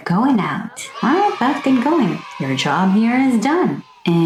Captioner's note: children's cheer sfx